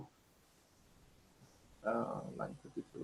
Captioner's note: whispering